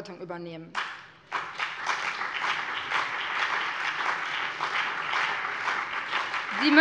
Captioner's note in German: Beifall BÜNDNIS 90/DIE GRÜNEN und vereinzelt CDU